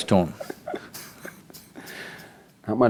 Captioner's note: laughs